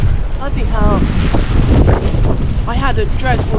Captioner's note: gust of wind; wind